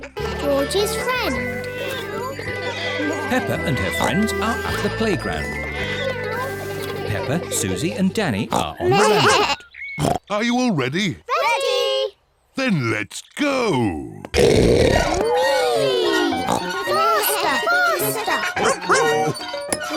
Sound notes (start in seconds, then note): 14.3 oinks